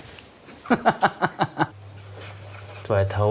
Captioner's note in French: Rire